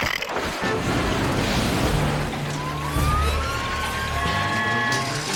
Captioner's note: whirring